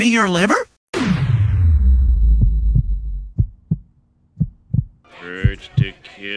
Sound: time slows down leading to heartbeat sound

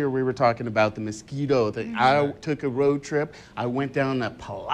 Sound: laughs

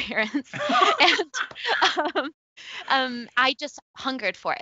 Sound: both laughing

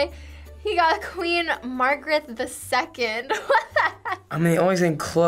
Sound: laughs

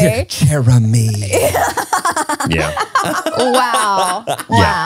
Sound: everyone laughs

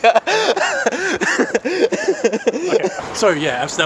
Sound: laughter

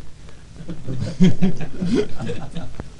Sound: laughing

